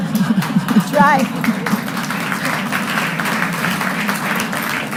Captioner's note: audience applauding